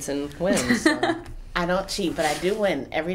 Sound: laughing

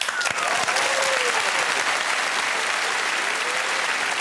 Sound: cheers and applause

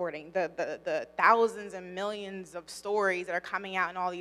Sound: none

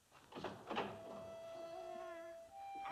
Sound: door opens; baby cooing

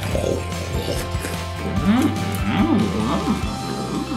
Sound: slurping

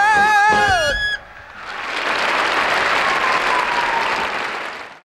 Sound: audience cheering and clapping

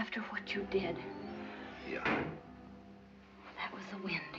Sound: door banging

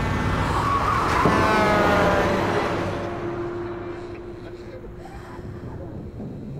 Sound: ominous music; truck honking; tires screeching

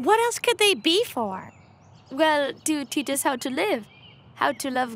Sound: none

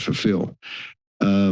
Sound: inhales

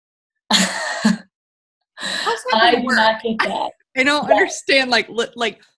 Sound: laughs

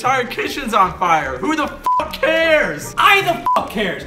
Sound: beep

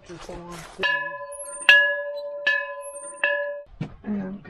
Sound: bell chimes

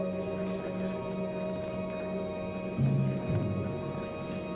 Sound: people chattering; suspenseful music

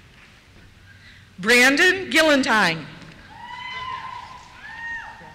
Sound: cheers

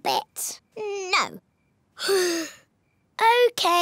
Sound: sighs

